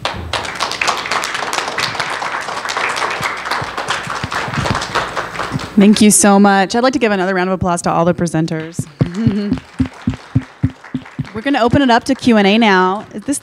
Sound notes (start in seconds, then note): 0.0 applause; 8.7 applause